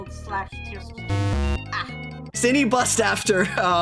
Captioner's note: wrong buzzer